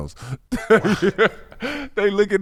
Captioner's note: laughing